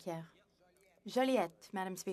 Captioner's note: speaking French